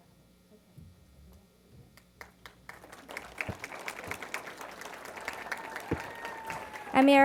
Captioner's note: applause